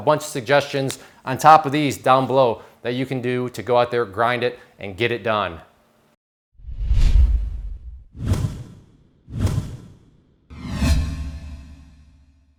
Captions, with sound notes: cuz now you have a bunch of suggestions on top of these down below that you can do to go out there, grind it and get it done. (swooshing)